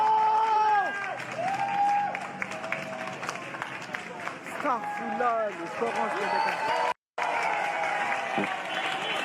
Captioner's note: clapping; whistling; cheering